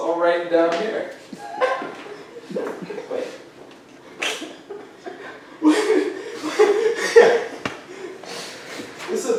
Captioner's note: more laughing